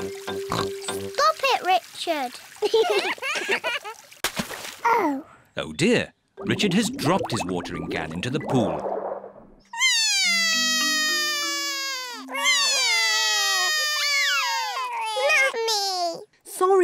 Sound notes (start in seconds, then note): 0.5 oinks; 2.7 both laugh; 9.8 both crying